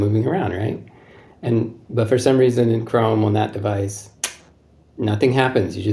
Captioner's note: snap